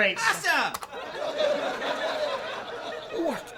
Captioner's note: laugh track